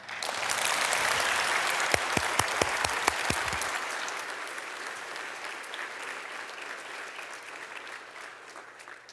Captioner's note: applause